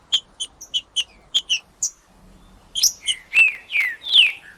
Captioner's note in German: trinca ferro cantando; trinca ferro cantando